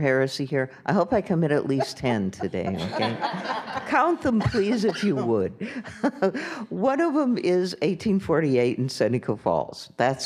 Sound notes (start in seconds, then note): 1.6 audience and panel members laughing; 5.6 laughs